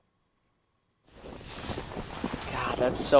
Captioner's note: fire crackling